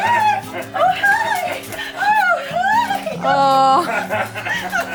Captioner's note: giggling